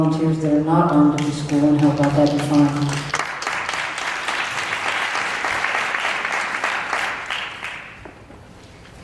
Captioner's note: applause